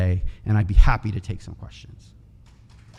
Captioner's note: audience clapping